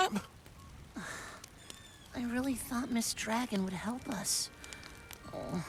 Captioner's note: sigh